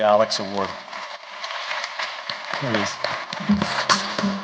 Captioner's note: applause